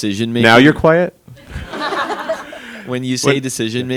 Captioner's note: attendees laughing